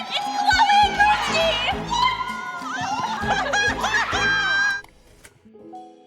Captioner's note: laughs